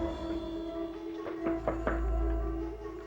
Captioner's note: knocks on door